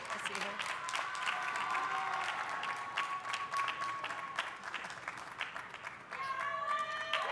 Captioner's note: audience applauding; audience cheering